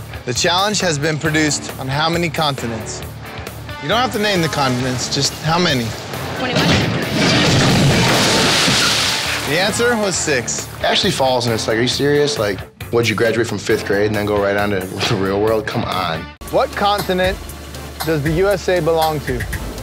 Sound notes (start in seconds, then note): 8.1 water splashing